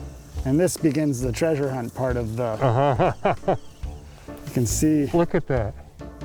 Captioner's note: laughs